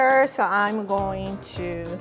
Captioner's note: none